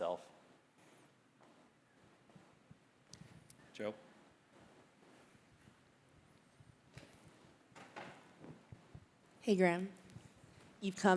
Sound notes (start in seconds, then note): none